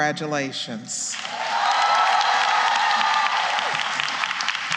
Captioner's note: applause